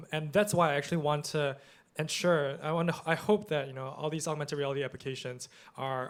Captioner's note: none